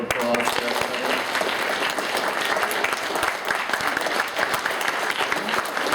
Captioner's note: applause